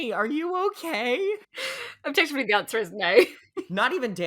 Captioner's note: laughing